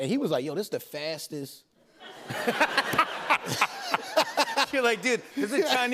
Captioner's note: laughter